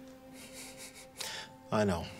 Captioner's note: laughing